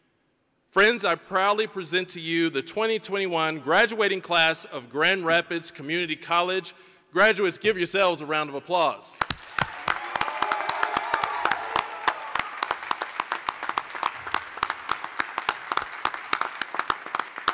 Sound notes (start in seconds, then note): 9.2 applause, cheering; 14.9 applause